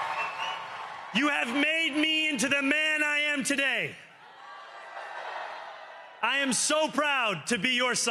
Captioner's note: cheering